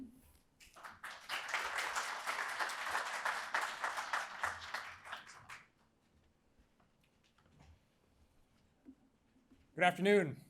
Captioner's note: applause